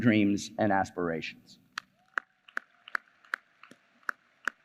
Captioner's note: applause